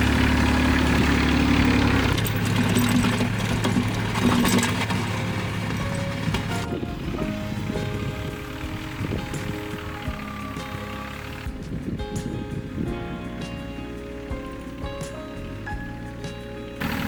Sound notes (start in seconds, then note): 2.7 soft music; 3.2 engine revving; 7.5 soft music; 16.7 engine revving